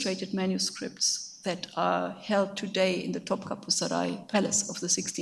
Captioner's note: speaks in a foreign language